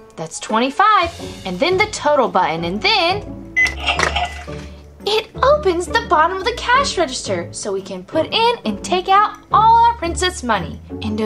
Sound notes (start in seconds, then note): 3.6 beep; 3.6 cash register rings